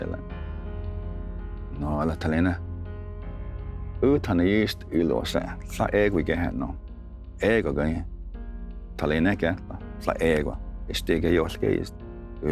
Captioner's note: tells story in Cherokee language